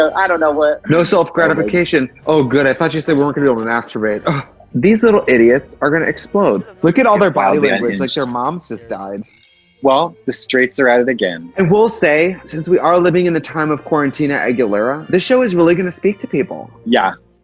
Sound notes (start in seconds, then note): 9.0 chimes; 9.0 dramatic classical music